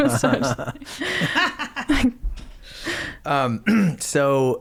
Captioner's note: laughing